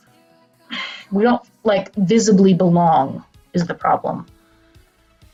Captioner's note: sigh